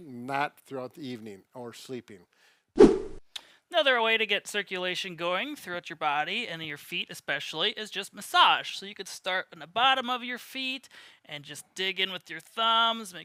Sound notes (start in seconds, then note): 2.8 whooshing